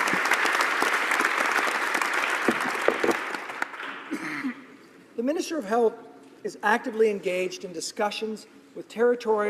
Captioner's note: applause